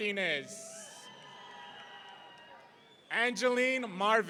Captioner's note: audience cheering